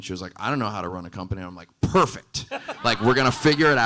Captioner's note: audience laughing